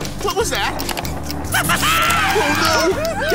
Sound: laughing

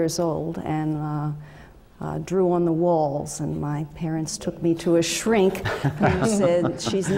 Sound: laugh

